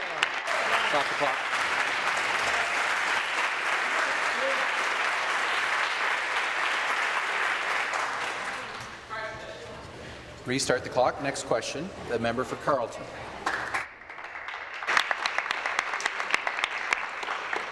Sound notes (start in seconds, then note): 5.9 applause